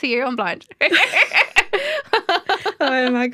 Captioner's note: laughter